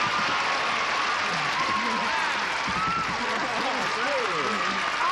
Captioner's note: applause